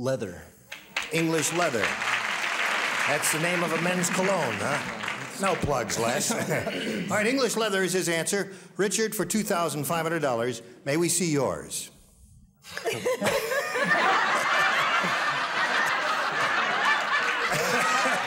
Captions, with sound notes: -Leather. -English Leather. [applause] That's the name of a men's cologne, huh. No plugs, Les. -[laughs] -All right, English Leather is his answer. Richard, for $2,500, may we see your? [laughter]